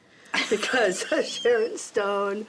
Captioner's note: laughs